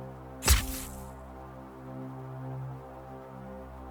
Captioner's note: sword whooshes